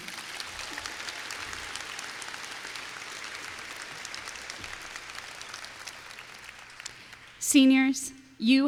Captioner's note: applause